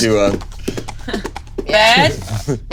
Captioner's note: hooves clopping